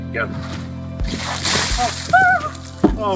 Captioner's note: water splashing